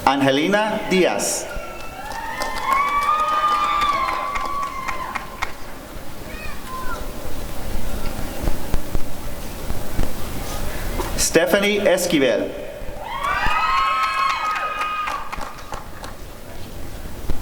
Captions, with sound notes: Angelina Diaz [applause and cheering] Stephanie Esquivel [applause and cheering]